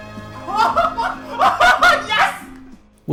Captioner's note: laughing